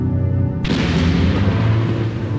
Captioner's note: thunder clap